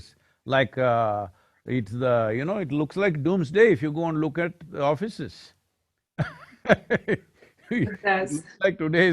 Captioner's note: laughs